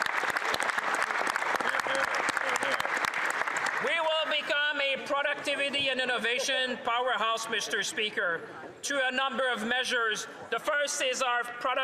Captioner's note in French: applaudissements